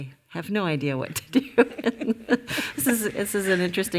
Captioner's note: all laughing